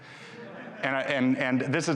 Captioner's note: audience laughing